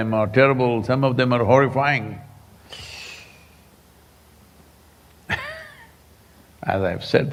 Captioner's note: laughs